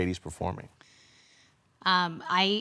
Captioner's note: heavy breathing